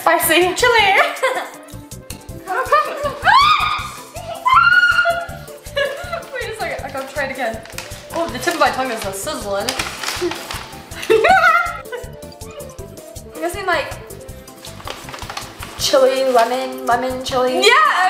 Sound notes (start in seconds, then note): 2.8 screaming; 11.2 exclaiming